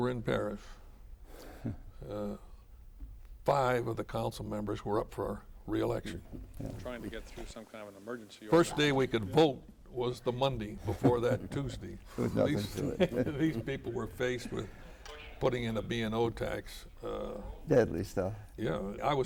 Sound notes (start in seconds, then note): 12.0 laughter between